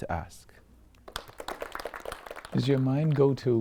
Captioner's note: applause